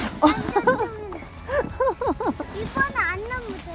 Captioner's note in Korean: 웃음